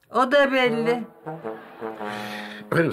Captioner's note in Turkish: Gülme efekti